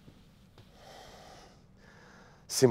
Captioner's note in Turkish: Nefes sesi